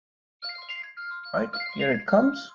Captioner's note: phone rings